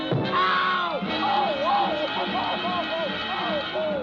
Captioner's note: bawling; whimpering